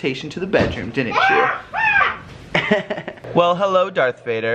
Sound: laughs

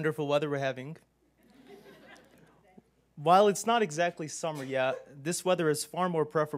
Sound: laugh

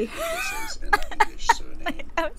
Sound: wheezing

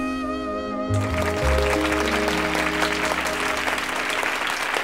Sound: audience applauding

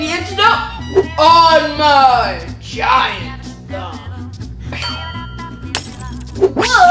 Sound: bell dings, glass shatters

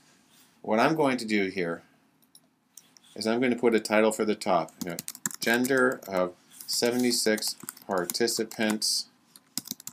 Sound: typing

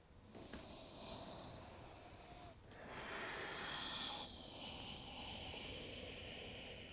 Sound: heavy breathing

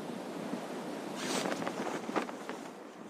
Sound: parachute opening sound

